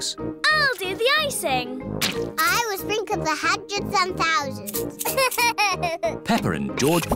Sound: laughs

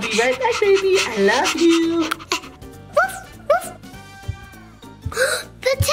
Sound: Adley barking

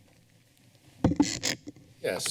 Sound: creaking sound

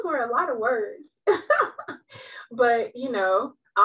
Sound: laughs

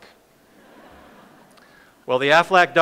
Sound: audience laughs

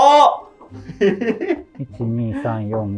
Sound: laughing

